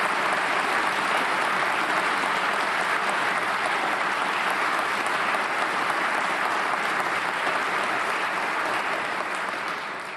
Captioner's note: applause